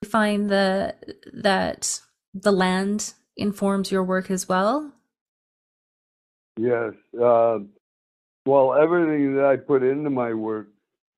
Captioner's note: audio cutting out